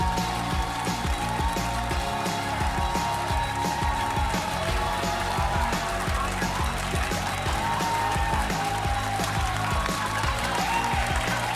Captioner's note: cheers and applause